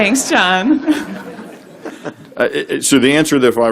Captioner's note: laughter